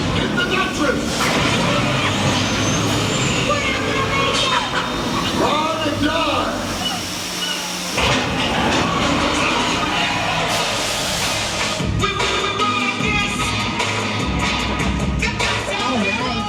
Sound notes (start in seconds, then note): 8.9 tires screeching